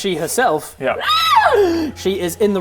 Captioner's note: aaaaaaaaaaah!